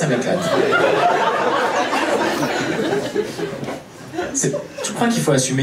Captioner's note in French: rires public